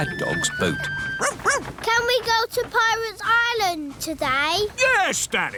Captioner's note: barks